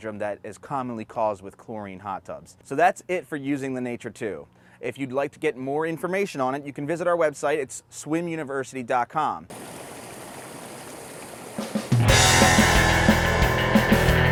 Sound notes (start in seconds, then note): 9.5 water burbles; 11.7 upbeat music